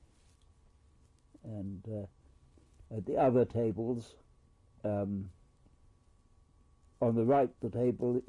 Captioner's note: pauses for 3 seconds